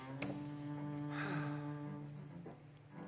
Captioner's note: affectionate sigh